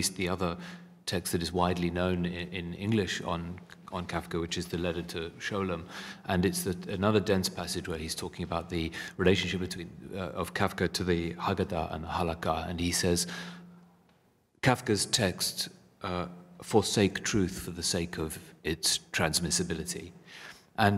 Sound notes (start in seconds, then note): 11.3 hebrew